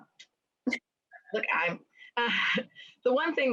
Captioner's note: laughs